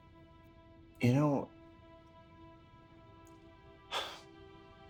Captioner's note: sighs